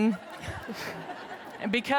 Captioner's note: audience laughs